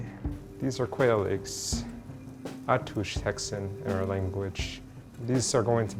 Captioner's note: foreign language